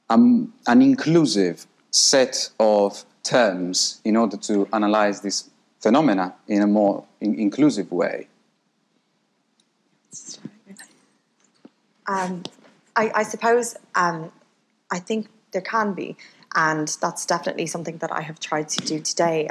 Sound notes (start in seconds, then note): 10.2 mumbling